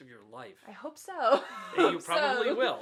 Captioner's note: laughs